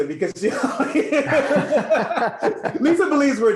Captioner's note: laughs